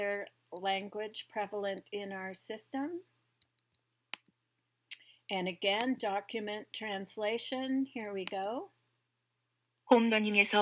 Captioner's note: computer speaking in Korean